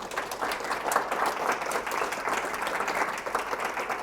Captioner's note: audience applauding